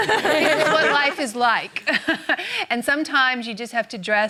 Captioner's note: laughter